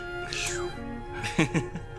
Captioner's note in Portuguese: Shhh